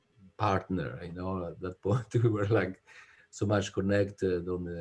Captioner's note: laughs